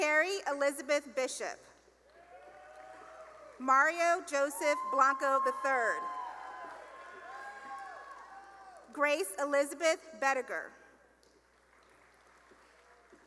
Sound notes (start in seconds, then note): 2.1 cheering and applause; 4.4 cheering; 11.3 applause